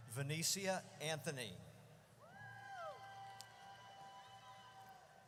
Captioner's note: audience cheers